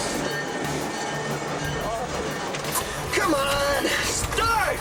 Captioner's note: railroad crossing bell ringing